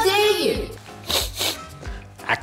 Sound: sniffs

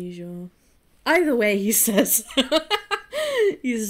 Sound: laughs

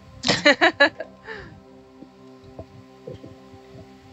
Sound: laughs

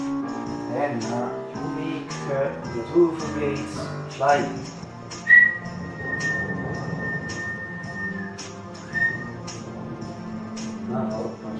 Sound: whistle

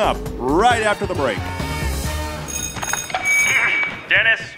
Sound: soundbite of set bell; through megaphone

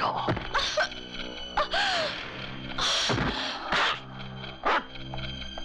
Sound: none

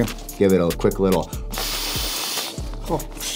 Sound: air blowing

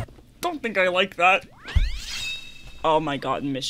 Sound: shing!

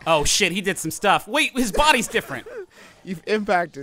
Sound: laughing

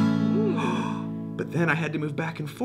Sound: guitar strumming; gasping

